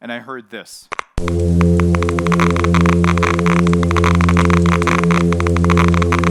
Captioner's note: fish hums and electricity buzzes